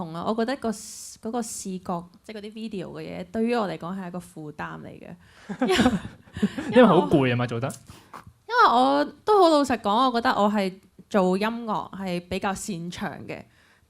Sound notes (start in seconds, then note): 5.6 laugh